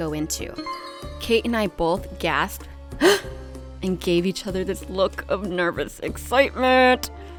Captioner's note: loud gasp